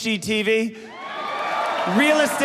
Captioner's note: audience cheering